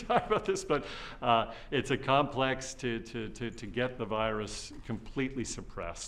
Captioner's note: laughs